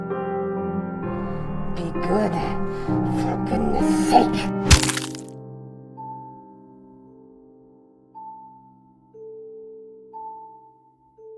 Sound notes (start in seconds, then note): 3.4 skull crunching; 5.7 gentle music